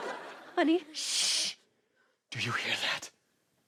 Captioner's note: shushes